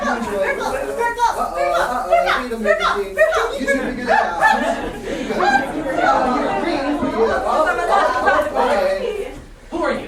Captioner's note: Aeolus and sailors chattering about beads